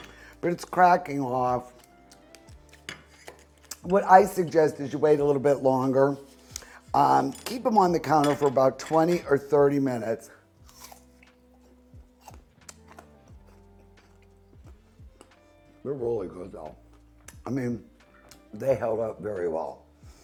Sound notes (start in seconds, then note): 10.3 steady music; 10.6 apple crunching